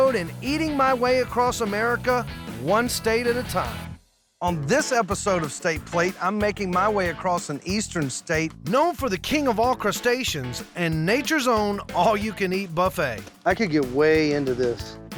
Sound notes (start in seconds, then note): none